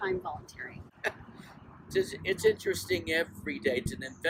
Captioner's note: laughs